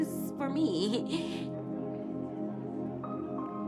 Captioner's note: laughs